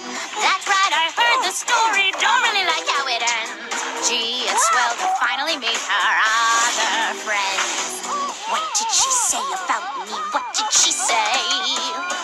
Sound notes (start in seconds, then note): 10.9 screaming